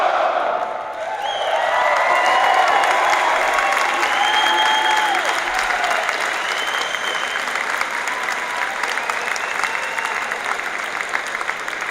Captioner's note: applause and crowd noise